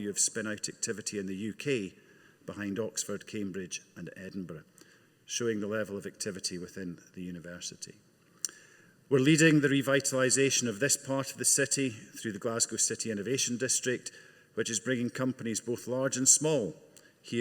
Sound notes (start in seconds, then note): none